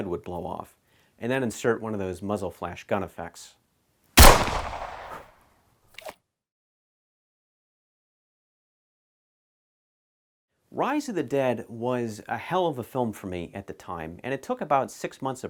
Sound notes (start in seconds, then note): 4.2 gunshot